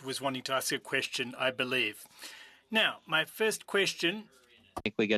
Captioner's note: speaking French